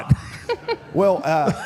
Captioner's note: group laughs